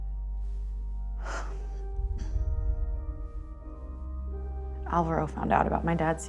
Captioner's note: sad piano music; Cat sighs